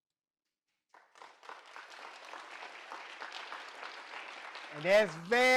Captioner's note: video ends, audience claps